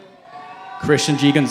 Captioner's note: cheering